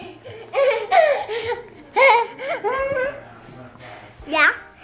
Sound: laughs

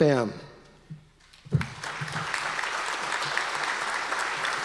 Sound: audience applause

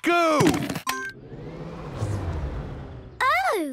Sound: car chimes; whirring, whirring stops

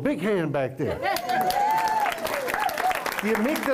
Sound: cheering and Applause

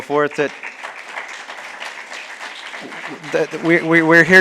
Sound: audience clapping

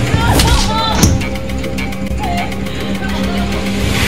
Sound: women crying and clamoring

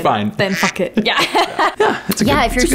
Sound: beep

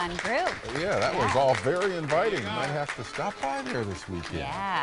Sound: applause

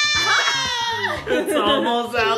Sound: laughing

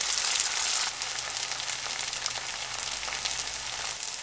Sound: sizzle

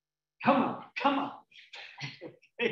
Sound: laughing

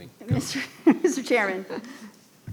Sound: laughing

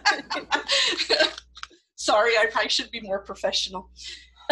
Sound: laughter

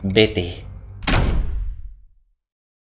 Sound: door slamming shut

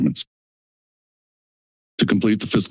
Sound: silence

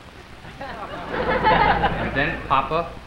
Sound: crowd laughs

